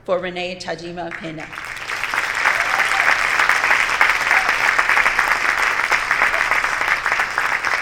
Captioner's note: cheering